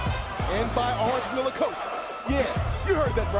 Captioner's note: crowd cheering